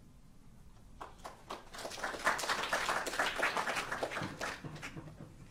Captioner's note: audience applauding